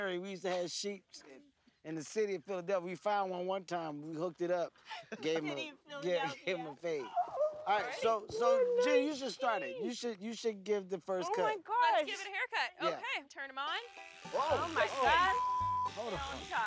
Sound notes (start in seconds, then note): 7.0 laughs; 13.8 loud buzzing